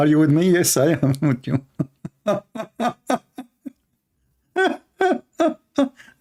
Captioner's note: Ketawa